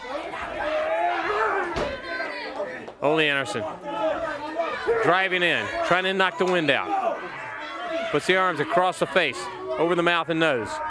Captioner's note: crowd cheering